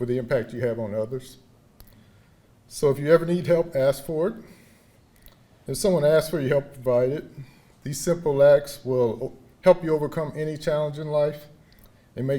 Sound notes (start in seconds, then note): none